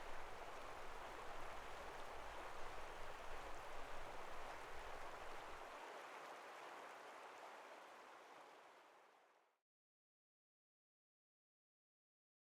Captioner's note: river gurgling